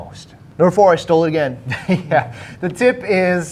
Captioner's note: laughs